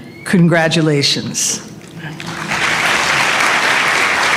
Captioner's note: applause